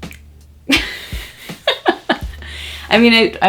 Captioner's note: laughing